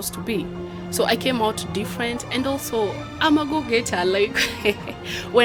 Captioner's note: laughs